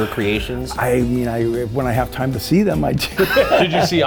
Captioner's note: laughing